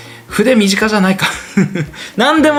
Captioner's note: laughs